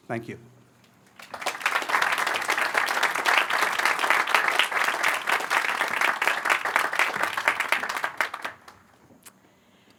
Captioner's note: applause